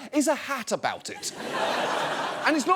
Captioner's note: audience laughs